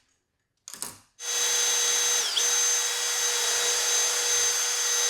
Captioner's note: tool clicking; drill whirring